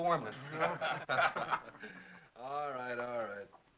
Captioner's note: laughter